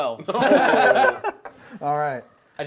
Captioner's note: laughing